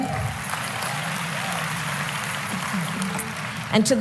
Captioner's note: applause